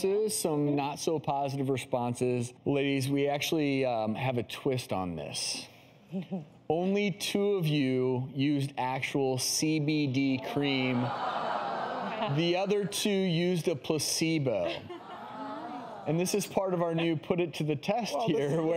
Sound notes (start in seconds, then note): 10.4 audience exclaiming